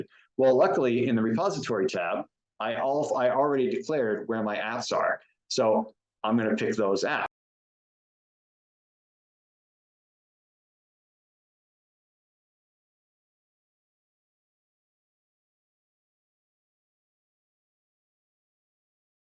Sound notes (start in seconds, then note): 7.5 silence